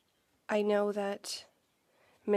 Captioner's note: speaking French